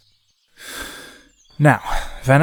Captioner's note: breathe in